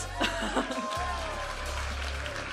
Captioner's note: giggling; audience applauding and cheering